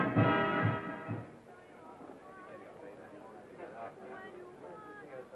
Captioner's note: crowd chattering